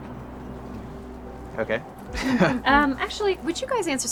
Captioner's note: laughs